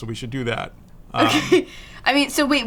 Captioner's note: laughs